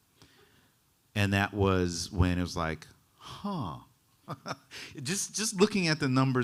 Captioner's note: chuckling